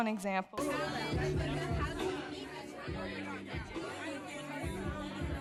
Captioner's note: chatter